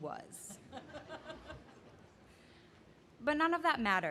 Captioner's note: laughing